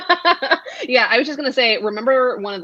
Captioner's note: laughs